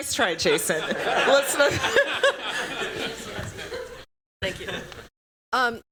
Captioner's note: laughter